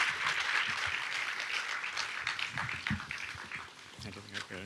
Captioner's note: audience applauds